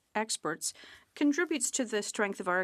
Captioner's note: speaking French